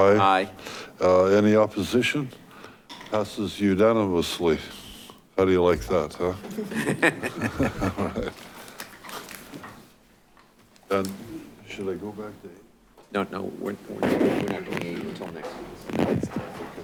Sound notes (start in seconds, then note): 6.4 chuckling